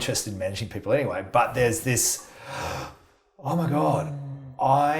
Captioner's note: inhales